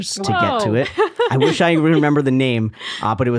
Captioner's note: laughing